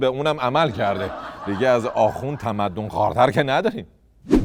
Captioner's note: laughter